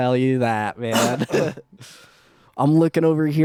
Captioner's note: laughing